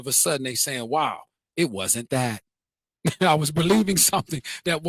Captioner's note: laughs